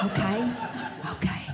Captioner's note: audience Laughing